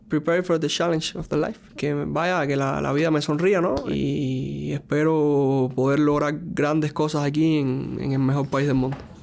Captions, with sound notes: prepared for the challenge of the life. (speaking in a foreign language)